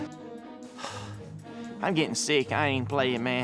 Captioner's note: sighs